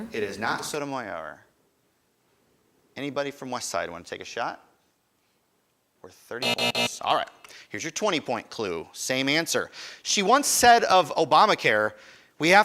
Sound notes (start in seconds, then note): 6.4 buzzer buzzing